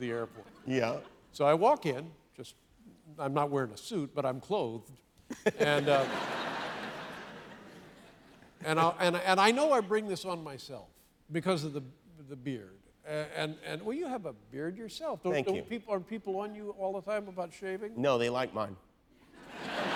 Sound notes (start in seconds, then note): 7.9 laughter